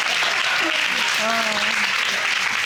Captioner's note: audience exclaiming; giggles